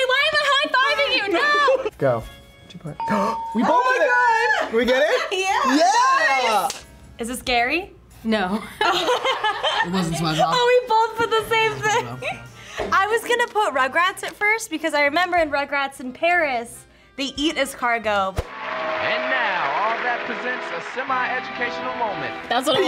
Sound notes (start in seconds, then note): 3.1 gasps; 8.7 laughs